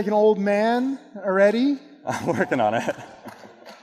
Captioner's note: laughing